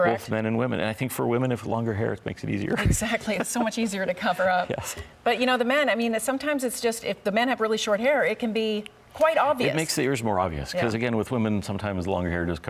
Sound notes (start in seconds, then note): 2.8 laughs